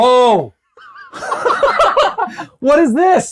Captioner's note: both laughing